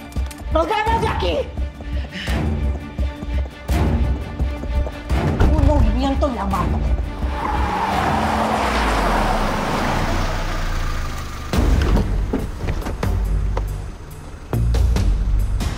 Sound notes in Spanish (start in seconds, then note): 7.0 Chirrido de llantas